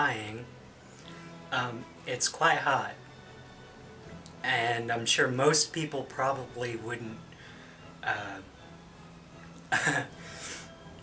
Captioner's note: giggles and clears throat